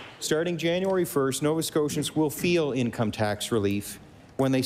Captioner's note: applause